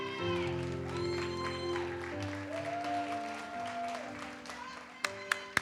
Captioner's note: audience cheers and applauds